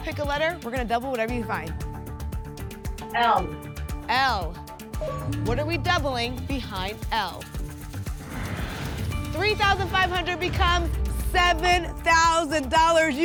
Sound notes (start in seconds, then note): 8.1 whoosh